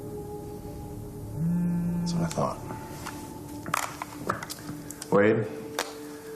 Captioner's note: cell phone vibrates